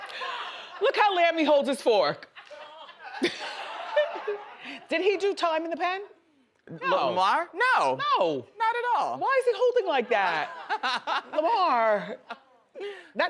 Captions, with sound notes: Look how Lamie holds his fork. (audience laughs) Did he do time in the pen? - Lamar, no! Not at all. - Why is he holding like that? Lamar!